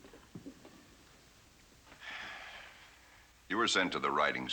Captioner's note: sighs